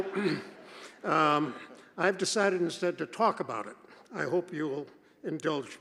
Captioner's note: laughter